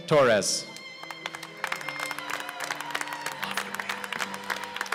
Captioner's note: applause